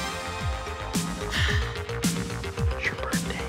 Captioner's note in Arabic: يتنهد